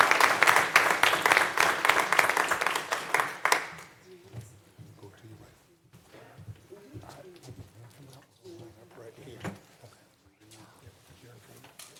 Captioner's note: applause